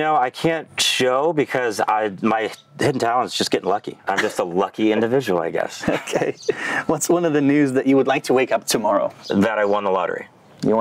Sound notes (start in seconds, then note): 4.0 laughing